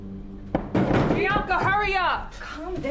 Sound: bangs on door

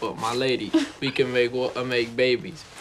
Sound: Jemma giggling

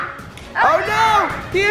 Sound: yells

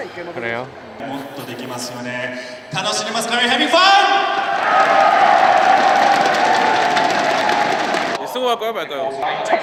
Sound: audience screams to begin the competition

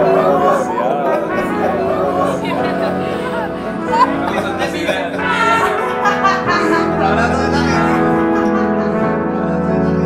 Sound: laughing

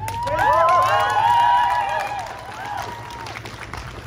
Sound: crowd cheering

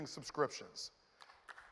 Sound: applause

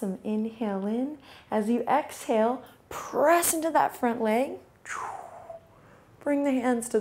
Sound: exhales sharply

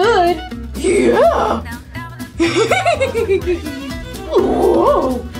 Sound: laughs

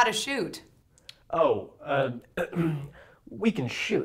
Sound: clears throat

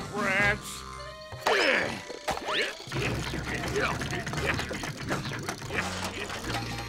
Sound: grunting

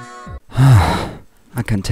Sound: sigh

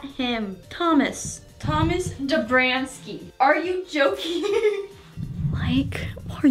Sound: laughs

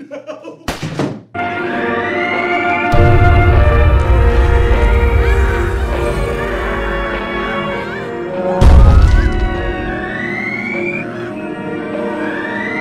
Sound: extensive pain and suffering on the background

